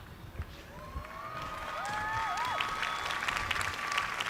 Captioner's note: cheers and applause